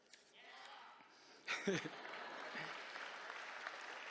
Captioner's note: laughs; applause